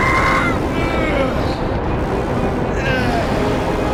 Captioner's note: Bruce groaning